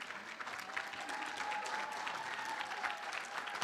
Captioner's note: room applauds